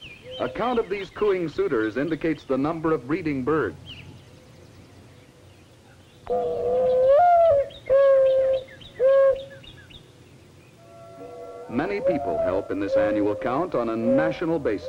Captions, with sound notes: A count of these cooing suitors indicates the number of breeding birds. (mourning dove call) Many people help in this annual count on a national basis.